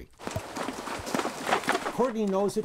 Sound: splashing water

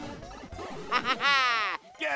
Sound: Luigi Chuckles

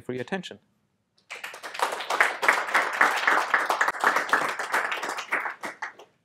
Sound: applause

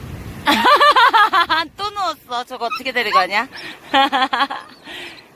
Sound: laughter

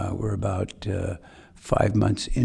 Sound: none

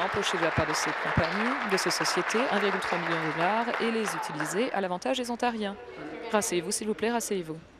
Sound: applause

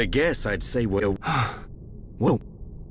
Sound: ghasp

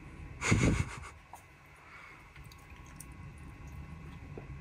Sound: chuckles

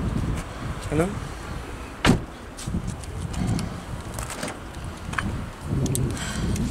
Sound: sighs

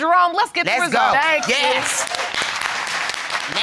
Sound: audience cheers

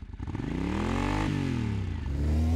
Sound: engine noise

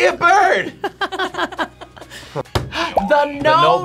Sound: laughing

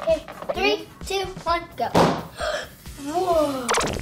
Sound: balloon pops

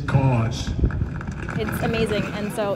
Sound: crowd clapping

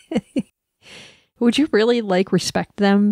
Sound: laugh

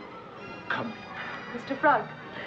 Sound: sighs

